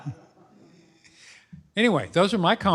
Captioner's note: laughter